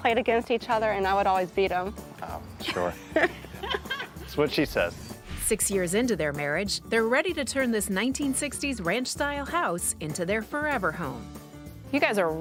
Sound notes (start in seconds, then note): 2.7 laughs